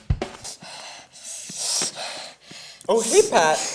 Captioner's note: wincing and breathing heavily